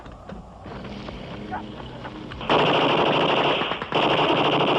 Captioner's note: gunfire